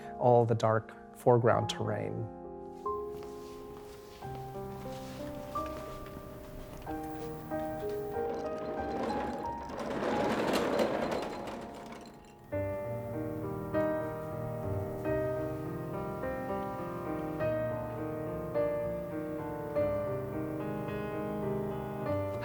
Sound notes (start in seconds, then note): 2.5 gentle music; 8.3 table rolling; 12.5 gentle music